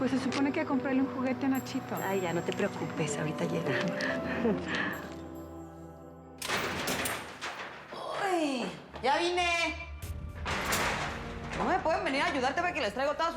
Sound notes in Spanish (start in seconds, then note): 6.4 sonido al abrir la puerta